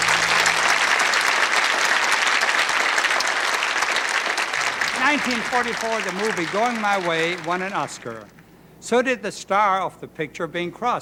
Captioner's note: applause